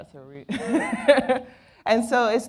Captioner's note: laughs